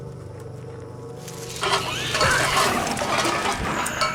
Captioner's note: cans clatter, animal shrieks